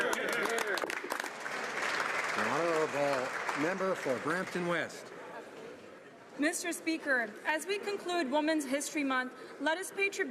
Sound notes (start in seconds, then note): 5.1 some Applause